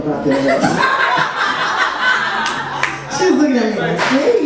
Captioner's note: audience laughs